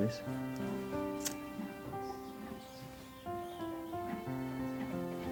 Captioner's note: lighter clicks